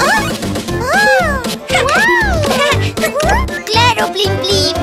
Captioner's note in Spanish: Risas